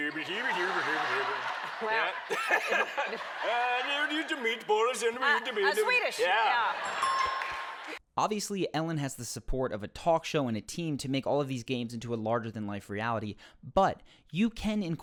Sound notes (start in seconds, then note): 0.0 gibberish Swedish; 0.0 laughs; 0.3 audience laughs; 3.5 gibberish Swedish